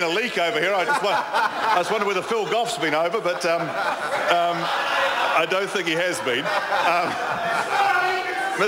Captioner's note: members laugh